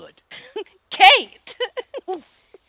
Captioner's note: laughter